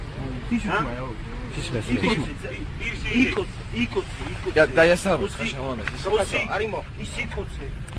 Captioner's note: in broken Georgian, unintelligeable